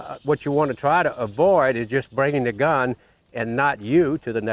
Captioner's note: none